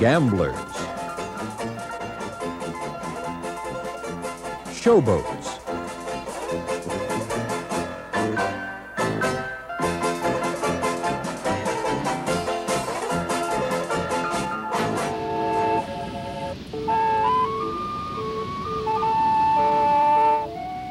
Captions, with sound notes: showboats. (boat whistling) Yet, for steam on water, it was a late autumn sun.